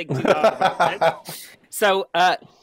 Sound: laughs

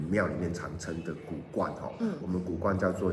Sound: Taiwanese

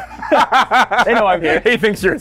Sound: they laugh

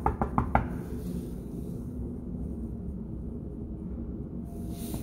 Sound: knocking door

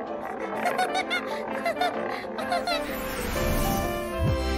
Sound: Benny laughing

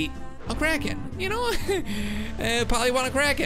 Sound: laughs

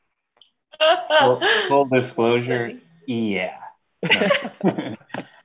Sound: laughing; chuckles; laughing

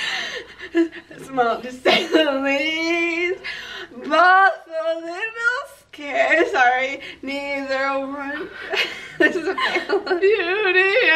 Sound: laughing

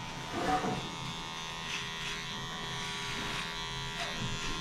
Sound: razor buzzing

